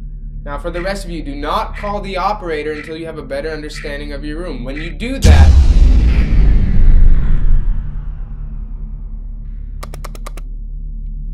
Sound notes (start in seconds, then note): 5.2 power shutting down; 9.8 button clicking